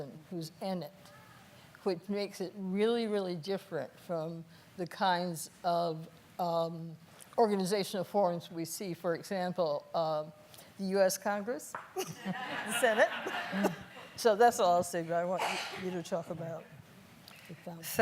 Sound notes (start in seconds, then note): 12.0 laughing